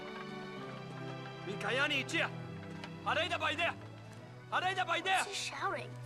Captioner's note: kimo shouting in native language